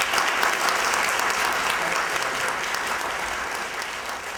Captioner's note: applause